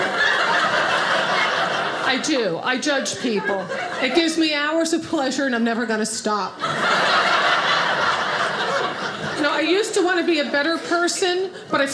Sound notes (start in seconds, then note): 0.0 audience laughing; 6.5 audience laughing